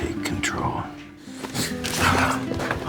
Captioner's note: gasping